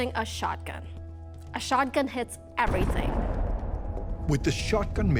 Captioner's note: shotgun fires